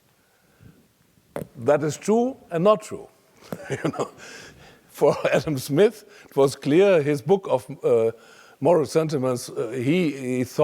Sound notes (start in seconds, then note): 0.3 laugh